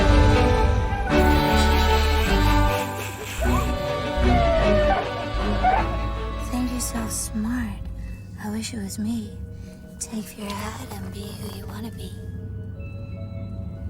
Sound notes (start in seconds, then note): 1.4 snickering; 2.9 siren chirping